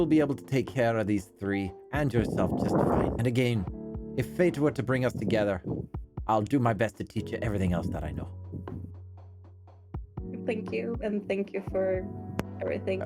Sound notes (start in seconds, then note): none